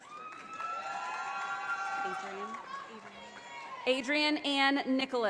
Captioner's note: audience applauding